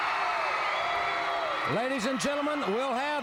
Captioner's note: crowd cheering